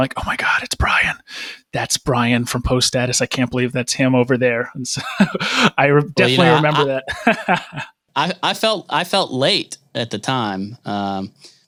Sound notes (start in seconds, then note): 4.9 chuckles; 7.7 laughs